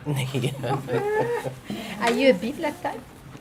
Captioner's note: laughing